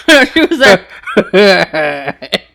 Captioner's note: laughing